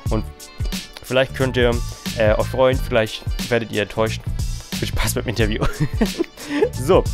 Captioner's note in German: lacht